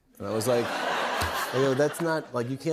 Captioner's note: laughter